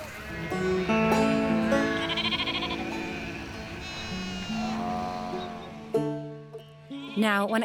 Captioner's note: sheep sound